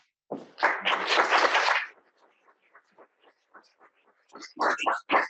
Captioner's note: audience applauding